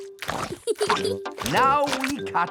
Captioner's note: peppa giggles